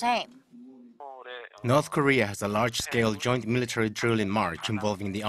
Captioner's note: Korean